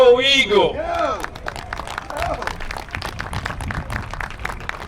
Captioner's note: applause